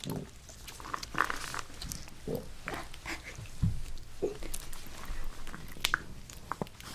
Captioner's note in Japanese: お腹の音が鳴ってしまった